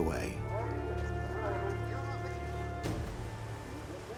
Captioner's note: speaks Ukrainian